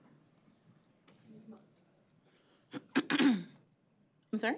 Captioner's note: clears throat